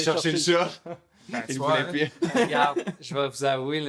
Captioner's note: laughs